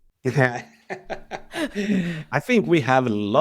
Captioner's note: laughs